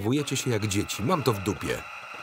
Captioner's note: buzzing many times